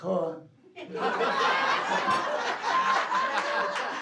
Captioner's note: laughing